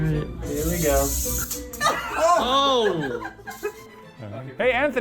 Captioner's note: laughing